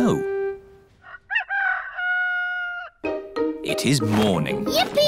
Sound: rooster crowing

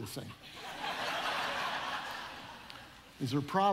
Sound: audience laughing

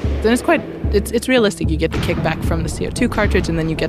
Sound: deeper gunshot sound

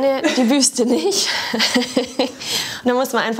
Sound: laughter

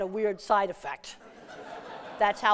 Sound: laughter

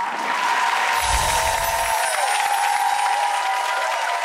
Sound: audience applauds

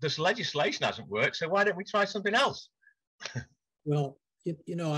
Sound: chuckles

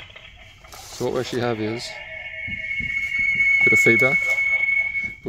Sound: bit of feedback

